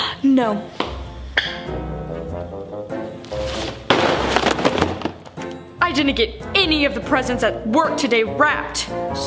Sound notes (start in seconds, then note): 3.2 boxes thud